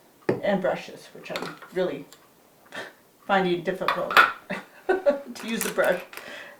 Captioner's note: laughs